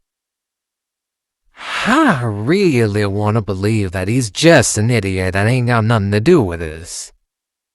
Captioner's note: sighing